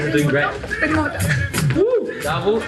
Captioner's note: speaking foreign language